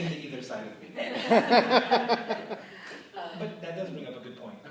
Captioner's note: laughter